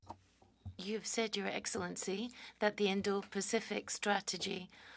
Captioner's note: speaking French